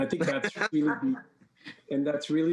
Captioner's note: laughs